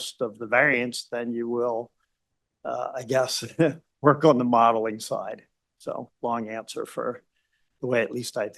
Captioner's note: laughs